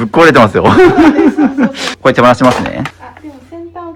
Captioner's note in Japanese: 笑い